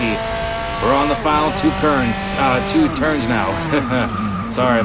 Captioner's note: struggling to say turns